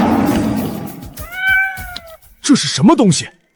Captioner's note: meow